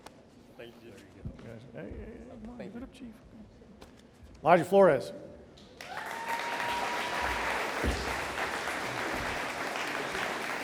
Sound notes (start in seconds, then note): 5.8 audience applauding